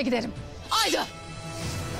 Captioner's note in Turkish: Kılıç sesi